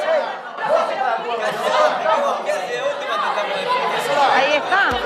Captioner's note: bustle